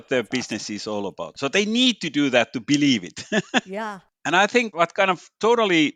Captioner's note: laughs